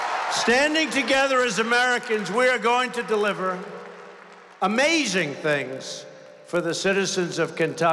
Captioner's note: applause